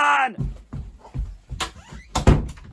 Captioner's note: footsteps; door close